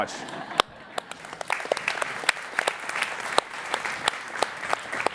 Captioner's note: laughing and applauding